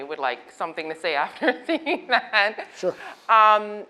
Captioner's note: laughs